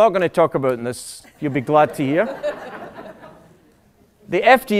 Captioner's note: laughter